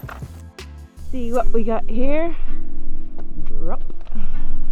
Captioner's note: bikes zooming